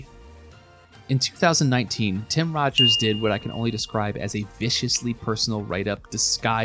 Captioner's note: ding